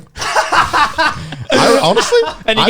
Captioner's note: laughs